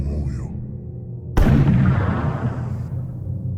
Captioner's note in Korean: 총성